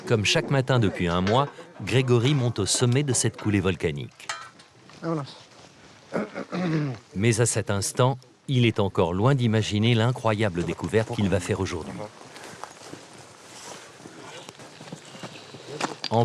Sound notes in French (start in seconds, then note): 6.1 raclement de gorge